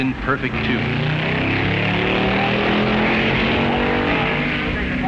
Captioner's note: hot rods revving